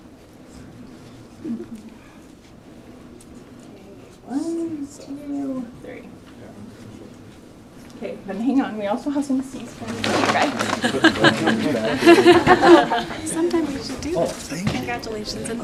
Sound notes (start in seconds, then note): 10.6 laughter